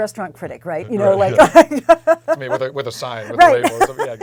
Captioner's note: laugh